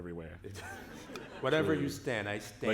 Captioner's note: laughter